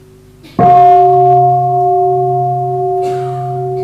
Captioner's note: bell